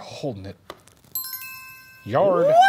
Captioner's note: bell dinging